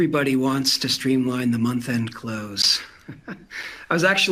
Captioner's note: laughing